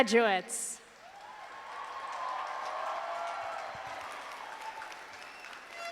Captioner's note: audience applauding